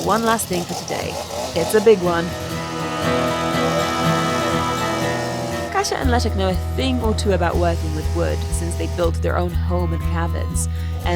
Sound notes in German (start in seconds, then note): 2.1 Fröhliche Musik; 2.6 Sägegeräusch